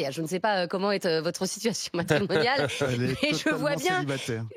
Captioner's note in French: rires